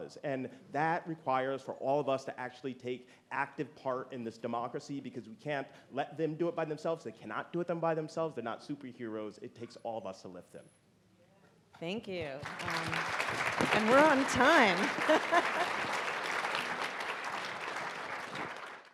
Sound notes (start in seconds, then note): 12.4 audience applauding; 13.8 laughing; 15.0 audience applauding